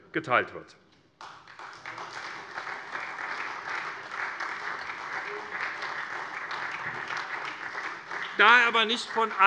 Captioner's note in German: Beifall SPD